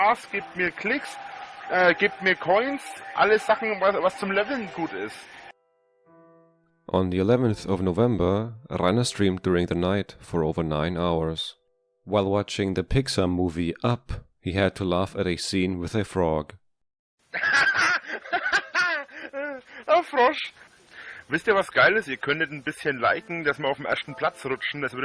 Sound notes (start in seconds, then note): 17.4 laughs